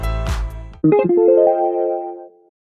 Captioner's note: ethereal ding